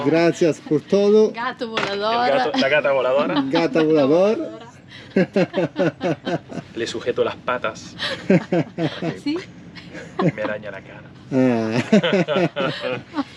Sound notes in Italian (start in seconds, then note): 0.0 Risate; 8.7 Risate